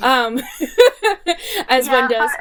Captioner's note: laughing